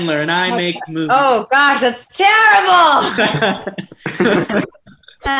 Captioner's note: laughs; group laughs